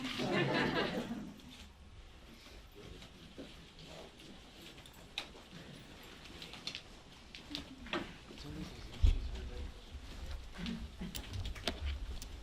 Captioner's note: laughter